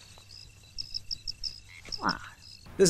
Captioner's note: groans